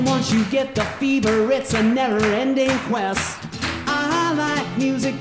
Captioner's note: audience clapping